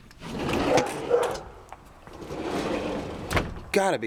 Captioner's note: Sasha barking